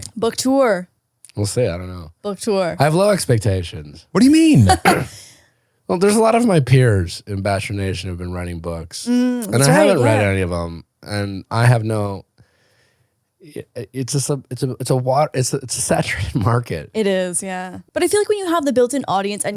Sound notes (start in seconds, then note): 4.6 laughs